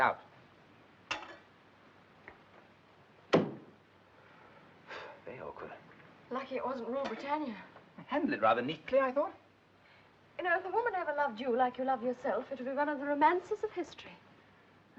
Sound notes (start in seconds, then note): 3.4 sighs